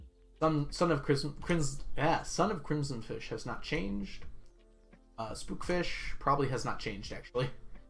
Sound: none

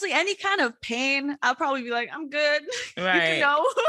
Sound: laughs

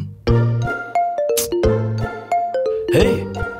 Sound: mobile phone ringing

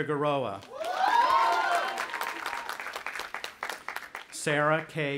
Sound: audience applauding and cheering

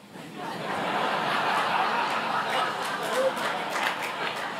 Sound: audience laughs

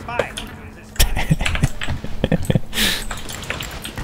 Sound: laughing

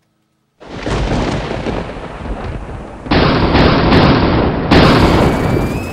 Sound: thunder; high pitched scream and pop

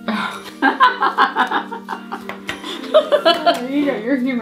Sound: mom and grandma laughing

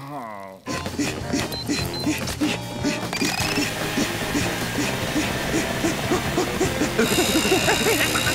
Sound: panting; groaning

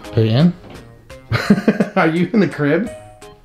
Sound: laughs

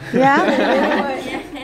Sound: laughter

